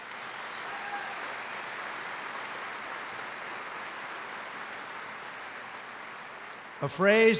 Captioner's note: applause